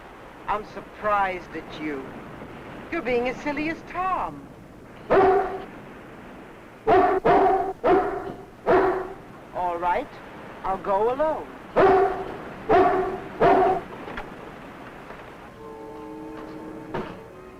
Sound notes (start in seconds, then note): 4.7 dog barking; 12.6 dog barking; 15.3 light dramatic music